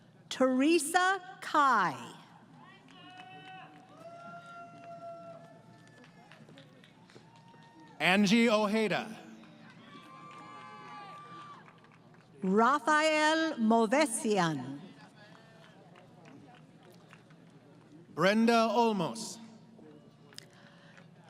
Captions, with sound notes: >> Theresa Kai. [ Crowd Cheering ] >> Angie Ohada. >> Rafael Movesian. [ Applause ] >> Brenda Olmos.